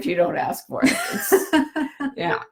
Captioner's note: laughs